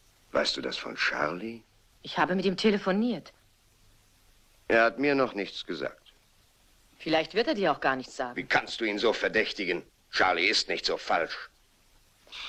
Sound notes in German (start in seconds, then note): none